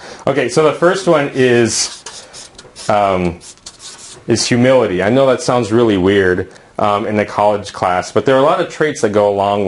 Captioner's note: uumm